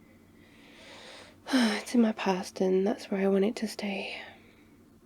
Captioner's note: sighs